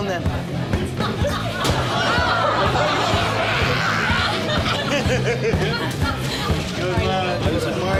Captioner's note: laughing